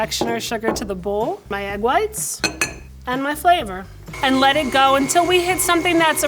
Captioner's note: mixer whirs